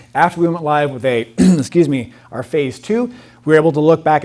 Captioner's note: clears throat